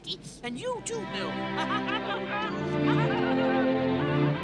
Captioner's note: laughs hysterically